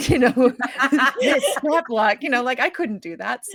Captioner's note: cast laughing